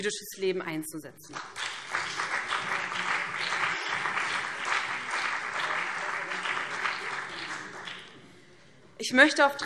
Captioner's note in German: Beifall BÜNDNIS 90/DIE GRÜNEN und CDU